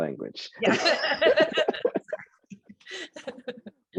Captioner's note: both laugh